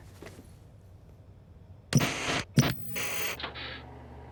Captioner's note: tv noises